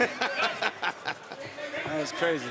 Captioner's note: laughs